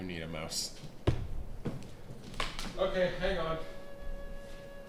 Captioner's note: bumping, clattering